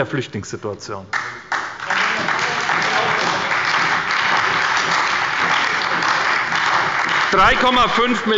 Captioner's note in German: Beifall bei der SPD und der LINKEN